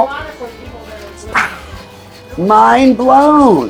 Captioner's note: imitates explosion